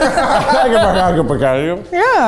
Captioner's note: speaking in gibberish